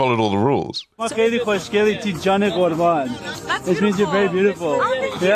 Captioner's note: laughs; speaking other language